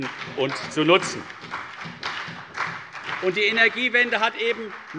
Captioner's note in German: Beifall CDU und BÜNDNIS 90/DIE GRÜNEN